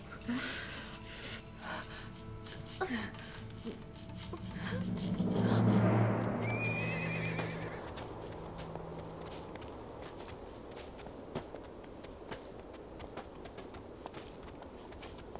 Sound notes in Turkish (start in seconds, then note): 0.0 Müzik - Gerilim; 6.5 At kişneme sesi; 8.3 Ayak sesleri